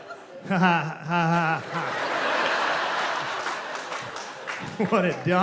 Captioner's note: nervous laugh